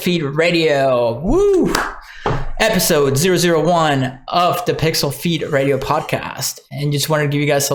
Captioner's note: clapping